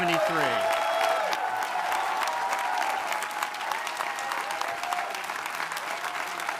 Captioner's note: audience applauding; audience cheering